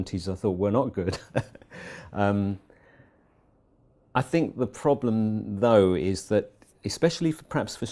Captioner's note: laugh